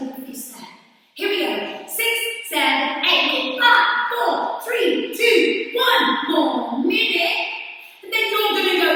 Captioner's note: counting 6 7 8